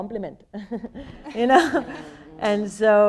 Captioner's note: people laughing